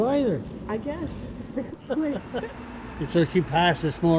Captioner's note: laughs